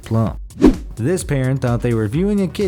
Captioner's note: air whooshes